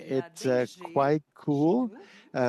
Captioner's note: speaking French